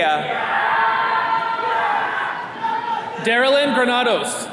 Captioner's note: attendees cheering